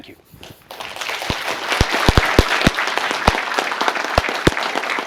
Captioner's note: applause